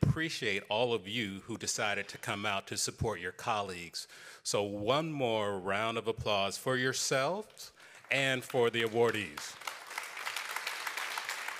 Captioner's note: applause